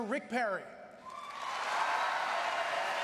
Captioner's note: applause